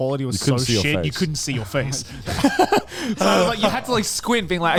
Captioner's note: laughs